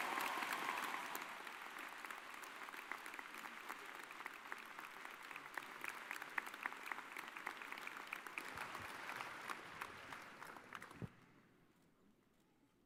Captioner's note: cheers and applause